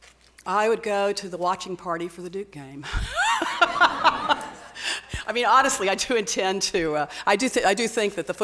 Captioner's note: laughs